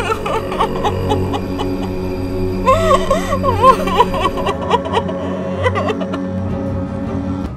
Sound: Jeya crying

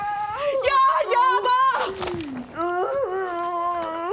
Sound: mother crying out

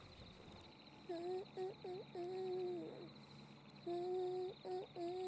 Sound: Bridget humming

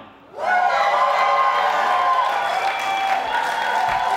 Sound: cheering

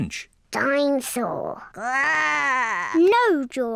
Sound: growls

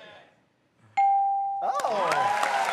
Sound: ding

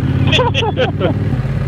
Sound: group laughing

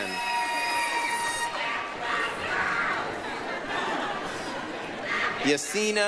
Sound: applause, cheering

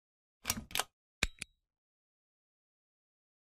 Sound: clicking

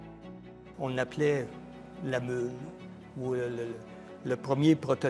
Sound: speaking in foreign language

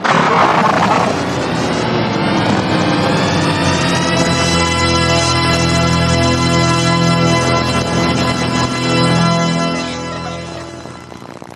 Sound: snort groans and crying

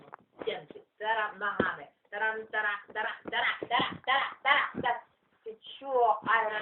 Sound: knock

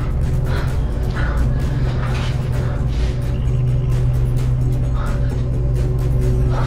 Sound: dramatic music continues; Ruth panting

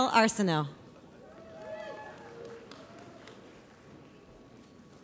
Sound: audience applauds

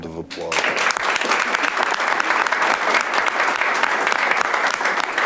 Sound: audience applauding

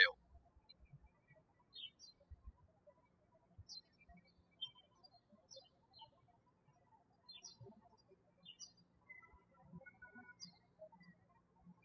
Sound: birds chirping

